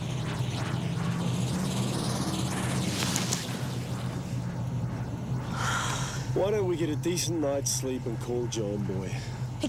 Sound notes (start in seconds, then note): 5.6 Jodie sighs